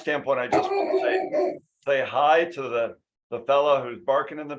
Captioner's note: dog barking